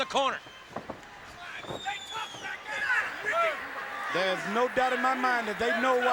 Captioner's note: crowd chatter